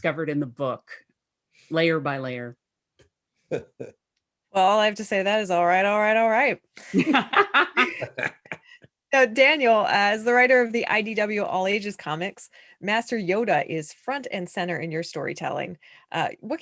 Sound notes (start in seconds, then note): 6.8 laughter